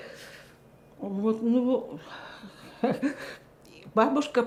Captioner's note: laughing